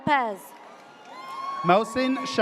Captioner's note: audience cheers